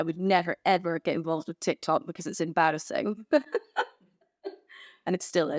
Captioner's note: laughs